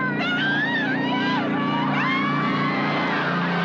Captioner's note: cheering